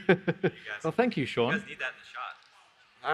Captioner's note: laughs